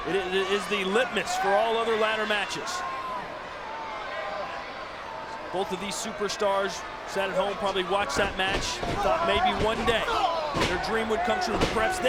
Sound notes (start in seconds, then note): 4.1 audience chattering